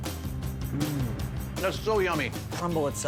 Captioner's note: John hums